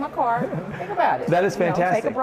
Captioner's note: laughs